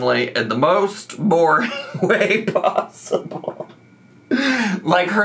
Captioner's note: laughs